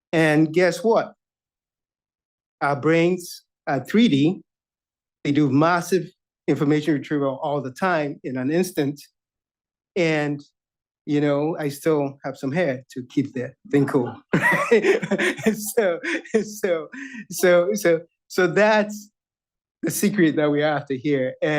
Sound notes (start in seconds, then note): 13.7 chuckles